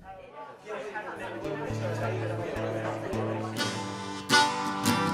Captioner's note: crowd chattering